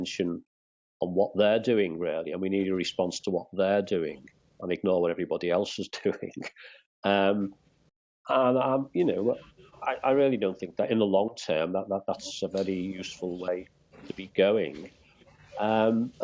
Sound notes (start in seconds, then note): 2.8 laughter